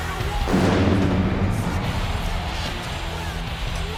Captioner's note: explosion booming